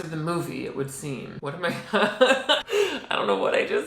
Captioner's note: laughs